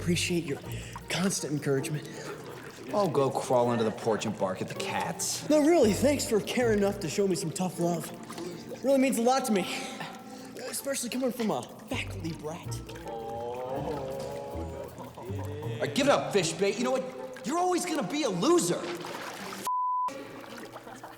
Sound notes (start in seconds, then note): 14.3 boys laugh quietly